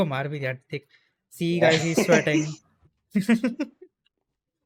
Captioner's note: laughs